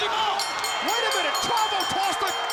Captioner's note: bell rings